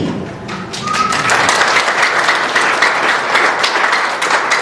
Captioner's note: applause